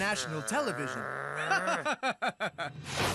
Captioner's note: Jose Laughs